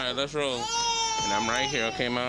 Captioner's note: baby crying